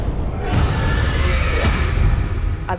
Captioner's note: dramatic scream